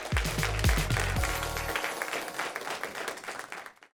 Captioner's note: crowd applauds